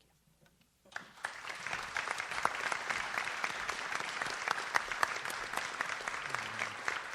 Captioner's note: audience applauds